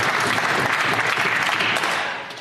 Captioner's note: applause